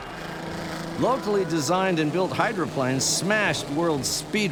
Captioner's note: engines roaring